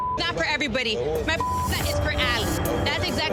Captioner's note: beep